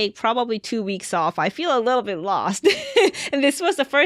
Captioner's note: chuckles